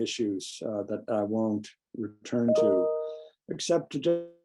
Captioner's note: computer beeps